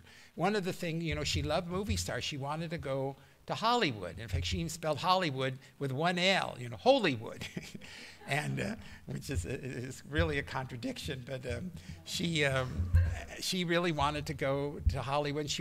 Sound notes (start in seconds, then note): 7.3 laughter